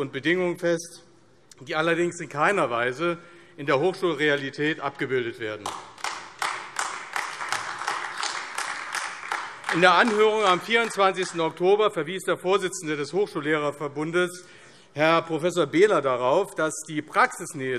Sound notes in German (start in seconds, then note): 5.6 Beifall AfD